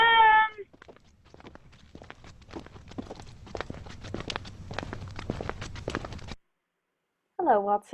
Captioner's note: two sets of footsteps